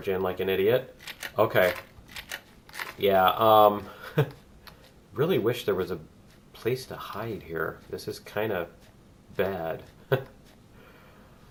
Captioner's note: guns clicking; laughs